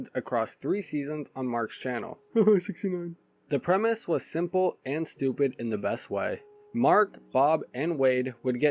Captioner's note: haha